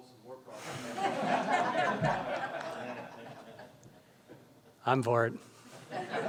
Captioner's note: audience laughs